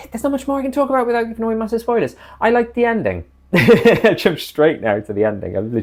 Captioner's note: laughs